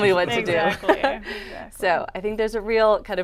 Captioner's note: chuckles